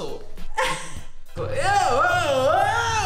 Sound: woman laughs; yelling

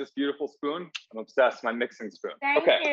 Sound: smooching

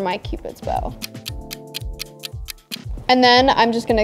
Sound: clock ticking

